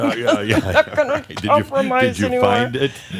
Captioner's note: chuckling; chuckling also